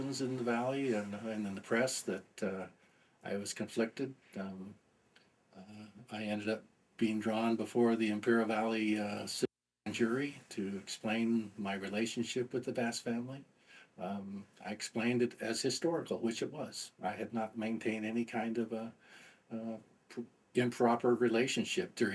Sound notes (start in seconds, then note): 9.9 audio interference